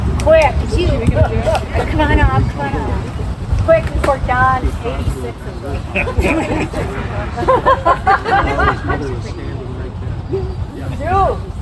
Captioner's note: laughter